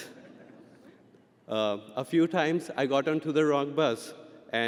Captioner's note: audience laughing